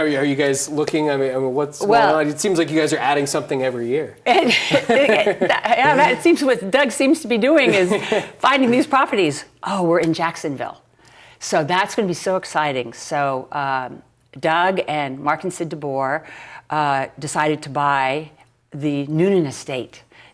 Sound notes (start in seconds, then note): 7.7 laughs